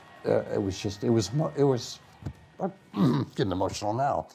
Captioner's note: clearing throat